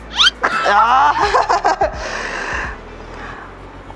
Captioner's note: laughter